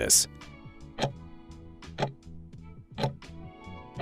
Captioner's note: timer ticking